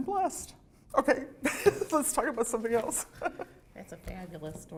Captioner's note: laughter